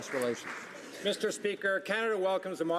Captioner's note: some Applause